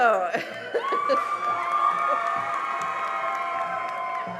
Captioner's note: cheering and applause